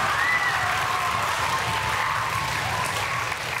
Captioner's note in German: Jubel und Applaus